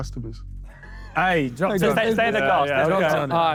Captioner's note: Sidemen laugh